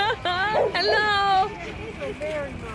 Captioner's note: laughter